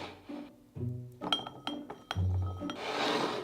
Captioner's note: beans dropping